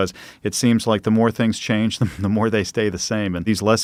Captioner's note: chuckles